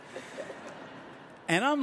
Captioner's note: audience laughing